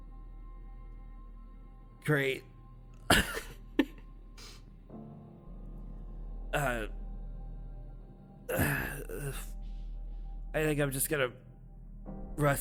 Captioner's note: coughs